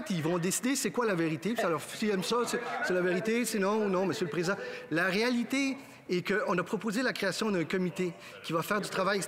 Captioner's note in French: voix de l'interprète